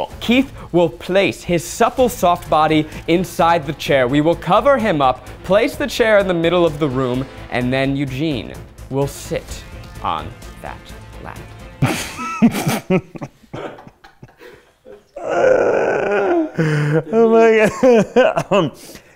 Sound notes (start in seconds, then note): 11.8 laughing